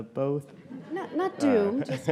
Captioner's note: audience laughing